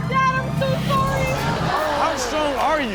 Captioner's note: audience groans